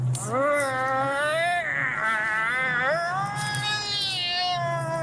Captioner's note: man grunting and yelling